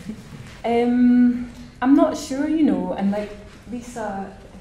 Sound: laughing

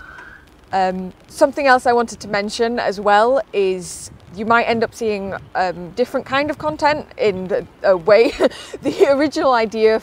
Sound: laughs

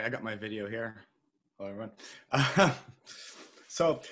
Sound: chuckles

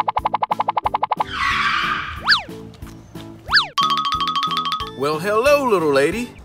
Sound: brakes screeching

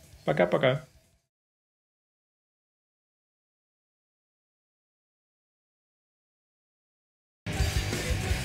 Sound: quiet scene

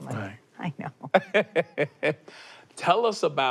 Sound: laughs

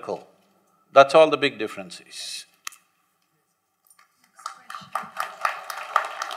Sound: applause

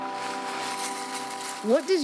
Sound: bowl clanging; cereal shaking

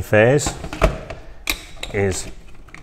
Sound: unit clicks

